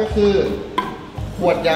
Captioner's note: knocks